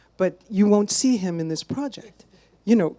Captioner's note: none